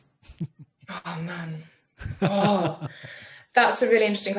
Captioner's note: laughs